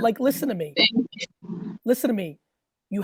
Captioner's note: laughs